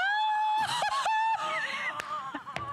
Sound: laughter

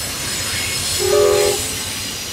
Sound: train horn

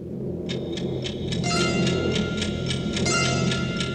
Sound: time bomb ticking

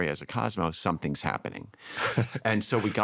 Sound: laughs

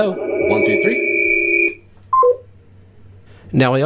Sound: high pitched ring

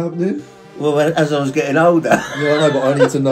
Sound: laughing

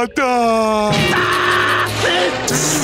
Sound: screaming

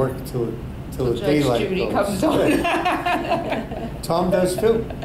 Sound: all laugh

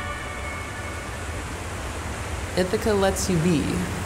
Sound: water rushing

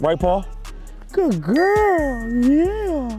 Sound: bell dings

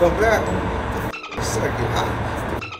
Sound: dolphin squeak

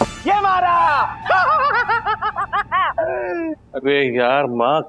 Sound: Dakshesh laughs loudly

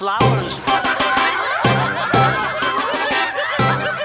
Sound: townspeople laugh

